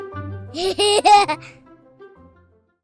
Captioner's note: laughter